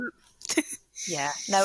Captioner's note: chuckles